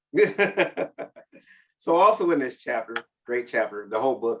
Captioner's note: chuckles